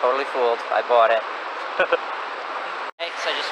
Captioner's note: chuckles